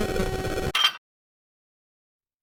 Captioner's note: clank